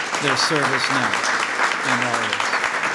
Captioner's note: applause